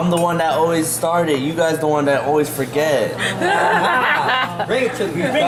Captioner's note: laughs